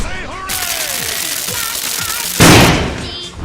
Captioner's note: electric crackling